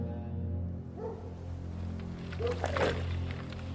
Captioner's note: dogs barking